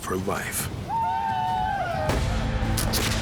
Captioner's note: shawnee warriors war cries; gunfire